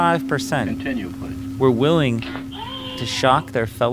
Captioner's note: screams